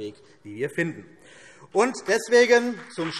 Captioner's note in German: Beifall CDU und BÜNDNIS 90/DIE GRÜNEN